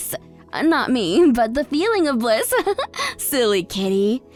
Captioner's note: chuckles